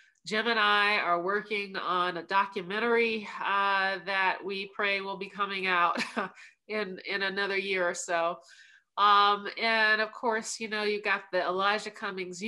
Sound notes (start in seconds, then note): 5.9 laughter